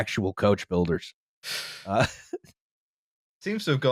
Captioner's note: breathes in sharply